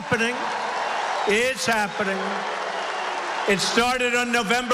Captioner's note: applause